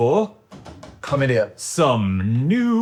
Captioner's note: palms thudding